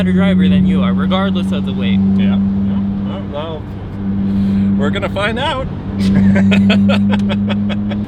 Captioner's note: laughs